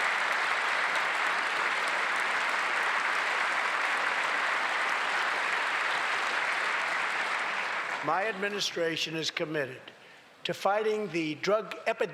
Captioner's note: applause